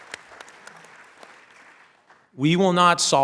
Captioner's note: applause